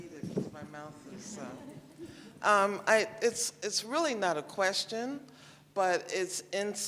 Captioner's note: laughter